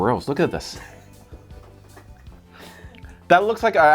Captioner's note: crew laughing